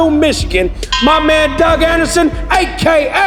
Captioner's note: bell ringing